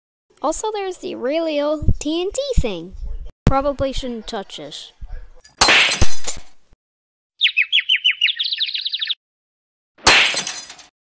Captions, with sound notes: Also, there is the really old TNT thing. Probably shouldn't touch it. [Glass Smash] [Birds Chirping] [Glass Smash]